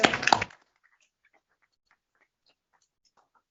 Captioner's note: applause